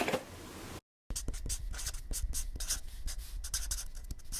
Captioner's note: marker scratches